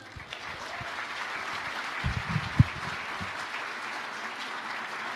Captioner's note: audience applauding